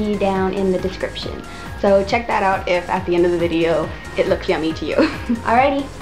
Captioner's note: laugh